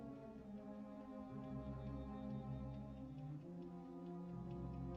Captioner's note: ticking